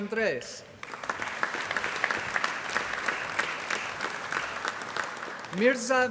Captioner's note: applause